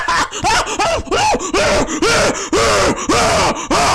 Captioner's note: gasping for air